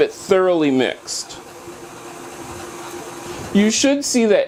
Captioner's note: mixing sounds